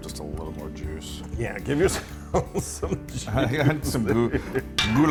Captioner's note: laugh